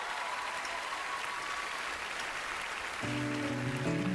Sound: cheering, applause

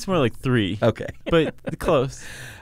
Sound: laughs

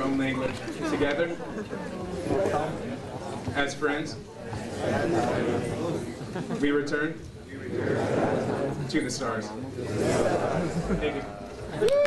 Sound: applause

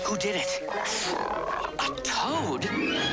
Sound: dog croaks

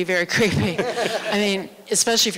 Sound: laughter

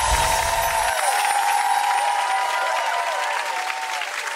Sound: applause and cheering

